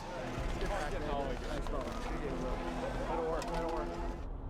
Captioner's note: players chattering